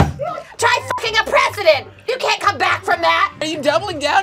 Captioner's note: beep